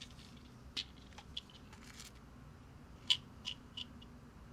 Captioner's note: pills rattling